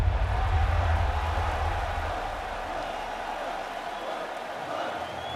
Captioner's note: crowd cheering